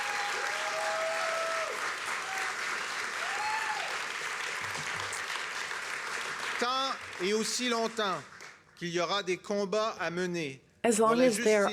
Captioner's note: cheers and applause